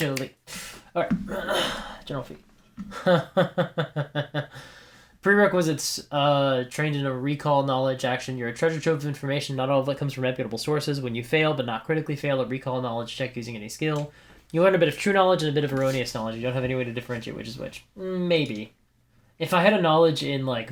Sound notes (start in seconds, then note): 2.8 laughter